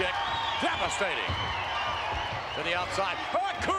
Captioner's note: spectators cheering